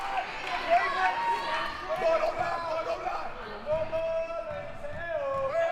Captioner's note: audience chanting and yelling